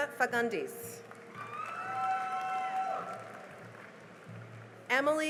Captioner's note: cheering and applause